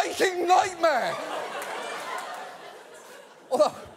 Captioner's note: audience laughs